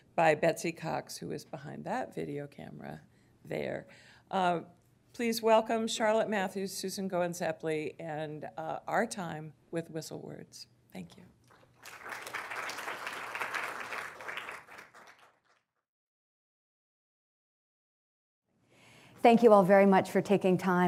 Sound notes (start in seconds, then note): 11.5 applause